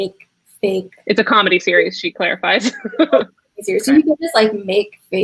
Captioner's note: laughs